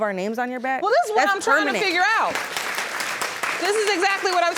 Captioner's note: audience applauding